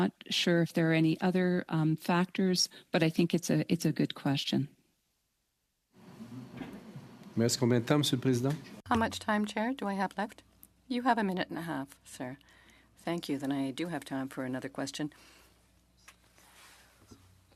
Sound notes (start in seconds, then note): 14.7 speaking French